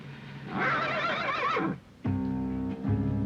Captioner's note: horse neighing